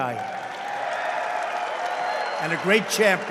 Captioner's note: applause